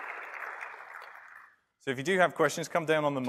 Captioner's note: applause